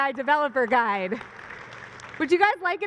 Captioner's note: applause